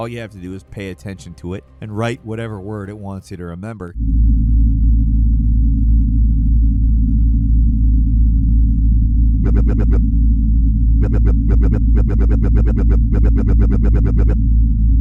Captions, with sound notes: All you have to do is pay attention to it and write whatever word it wants you to remember. (gentle mechanical humming) (computer warbling)